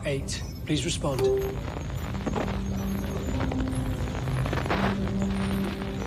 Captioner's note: static